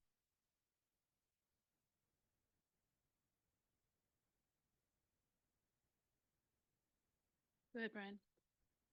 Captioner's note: silence